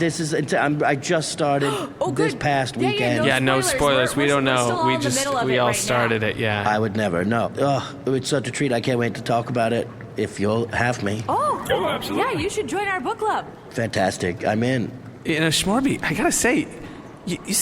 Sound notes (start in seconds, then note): 1.6 gasps; 10.5 makes a delighted noise